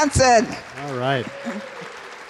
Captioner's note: applause